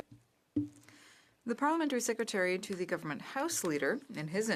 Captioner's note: speaking French